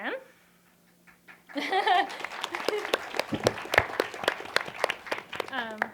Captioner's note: clapping and laughter